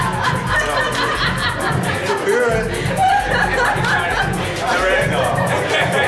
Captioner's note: group chatting and laughing; laughter